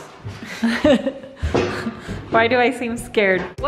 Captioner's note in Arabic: يضحك